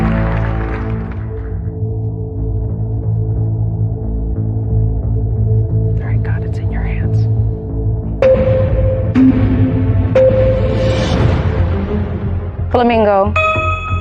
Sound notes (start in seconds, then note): 5.7 whispering